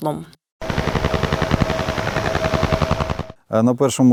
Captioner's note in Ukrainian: Звук схожий на довбання дятла